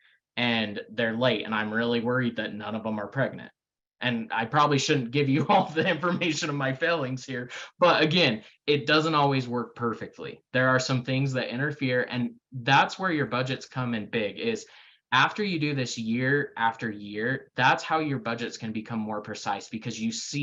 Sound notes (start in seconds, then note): 5.4 laughing